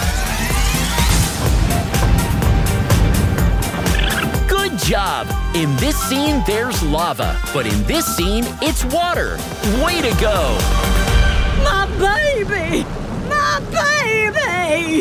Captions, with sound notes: [stomping] Good job. In this scene, there's lava, but in this scene, it's water. Way to go. My baby! My baby!